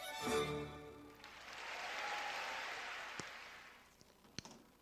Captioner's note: audience applaud